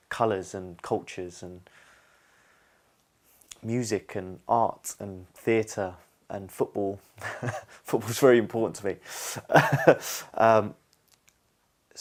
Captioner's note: laughs